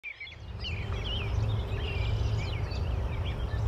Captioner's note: birds chirping